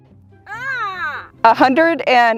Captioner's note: groans